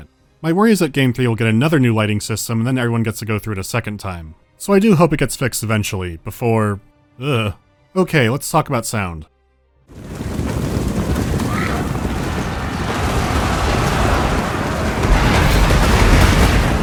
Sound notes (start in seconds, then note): 9.9 rumbling of hooves; 12.9 roaring of the infantry approaching; 14.9 booming impacts of projectiles